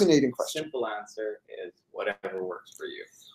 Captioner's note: voiceover